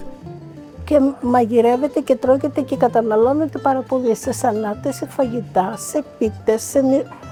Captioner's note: speaking in foreign language